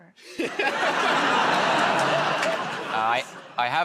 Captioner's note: laughter